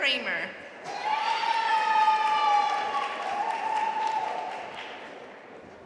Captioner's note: audience cheering and applauding